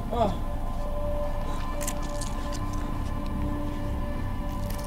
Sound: damp squishing

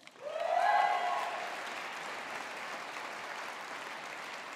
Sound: audience applauding

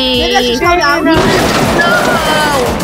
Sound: crash sound effect

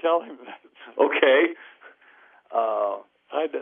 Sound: laughs

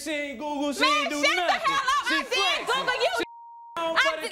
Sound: beep

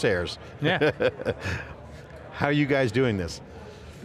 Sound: laughs

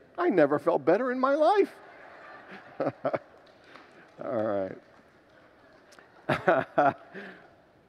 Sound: congregants laugh; laughs

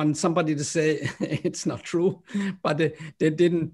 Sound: laughter

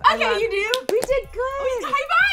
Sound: clapping hands

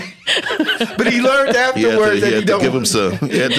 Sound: laughing

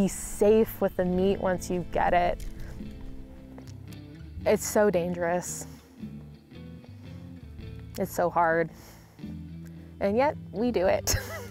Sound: laughs

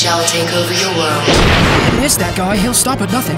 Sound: missile exploding

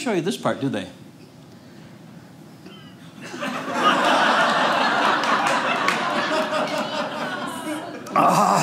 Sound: audience laughing

